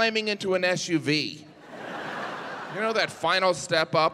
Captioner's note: audience laughing